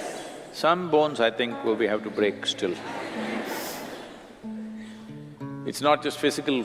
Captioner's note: laughter